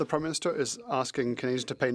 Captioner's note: speaking French